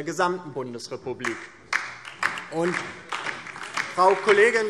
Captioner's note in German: Beifall DIE LINKE